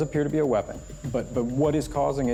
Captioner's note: high-pitched chirping